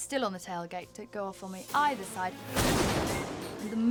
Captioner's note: explosion booms